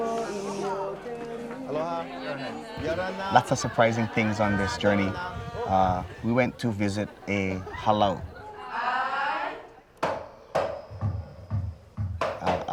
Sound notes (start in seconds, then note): 1.7 speaking Tahitian language; 8.5 crowd speaking Tahitian language